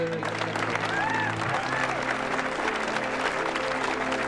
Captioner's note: crowd cheering